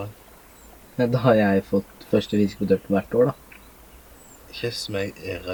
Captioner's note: laughing